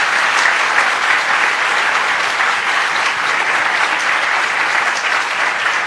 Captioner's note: applause